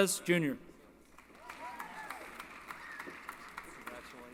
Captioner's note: applause